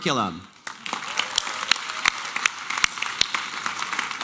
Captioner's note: applause and cheering